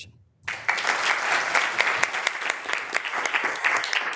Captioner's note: members applauding